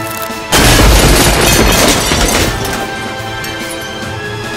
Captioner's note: mirror cracking; mirror shattering; dramatic music